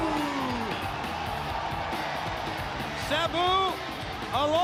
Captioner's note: crowd cheering